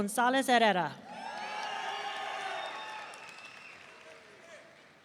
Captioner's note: audience cheering